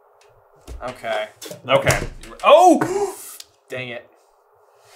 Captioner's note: gasp